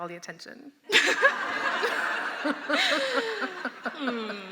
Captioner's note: laughter